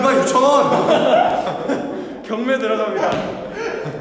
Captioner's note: laughing so hard he can't participate!